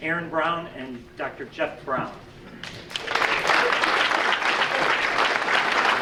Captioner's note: audience applauding